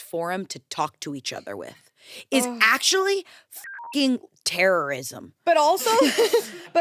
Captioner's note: beep; everyone laughs